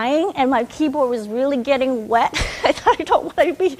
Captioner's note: chuckles